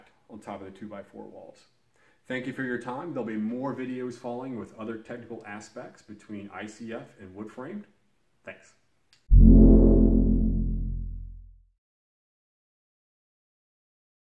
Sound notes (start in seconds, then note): 9.3 electronic tone